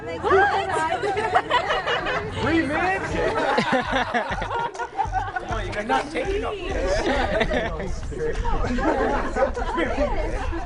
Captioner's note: laughter